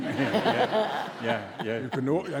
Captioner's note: audience laughs